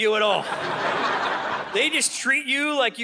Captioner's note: audience laughing